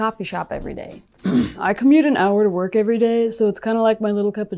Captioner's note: clears throat